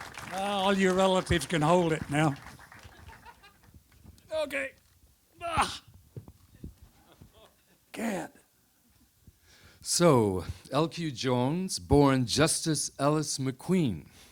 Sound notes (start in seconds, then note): 5.4 Jones groans